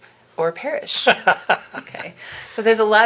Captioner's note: laughing